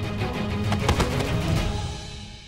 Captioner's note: thudding